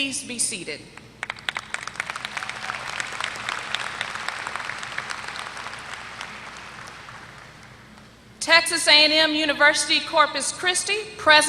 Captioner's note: applause